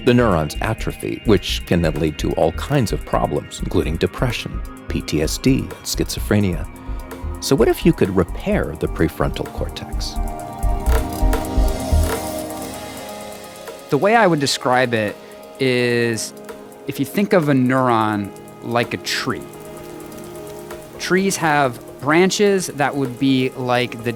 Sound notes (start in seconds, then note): 19.3 gentle music; 19.3 tree rustles